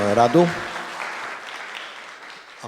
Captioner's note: Aplauze